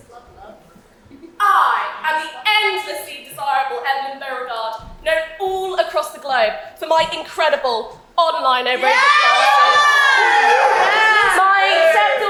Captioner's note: audience cheers loudly